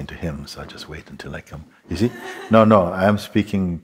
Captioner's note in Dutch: Zacht gelach